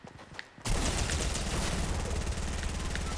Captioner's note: gunfire